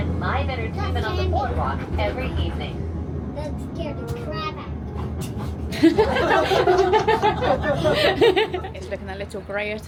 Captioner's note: laughter